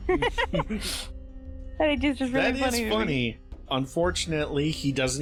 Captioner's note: giggles